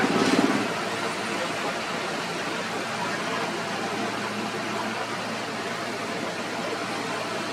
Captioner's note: engine Rumble